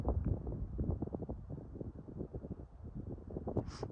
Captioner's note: wind blowing